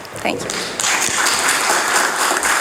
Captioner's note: applause